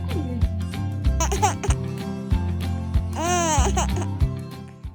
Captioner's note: positive upbeat music continues; laughs